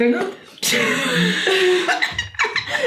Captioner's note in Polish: śmiech